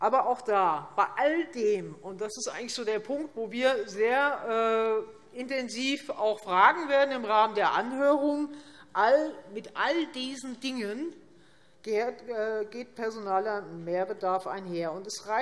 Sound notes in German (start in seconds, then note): none